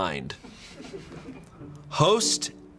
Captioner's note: crew members laughing